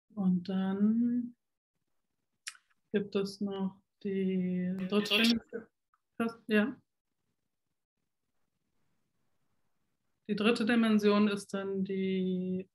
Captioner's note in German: tonstörung